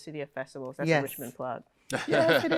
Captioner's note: laughter